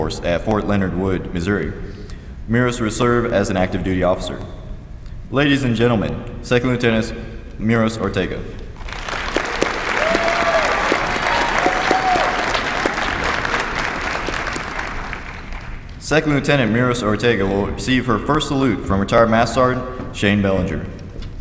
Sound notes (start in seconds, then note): 8.8 applause